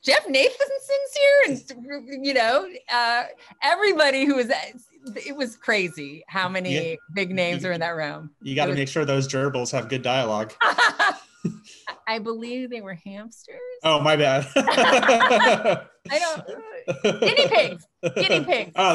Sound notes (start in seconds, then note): 11.6 laughs; 14.3 both laughing